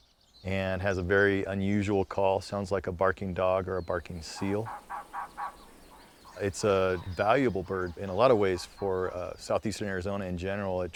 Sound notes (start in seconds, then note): 4.8 trogon chirps